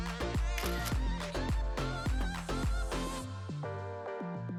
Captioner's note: camera clicks